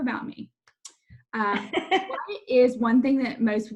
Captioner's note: laughs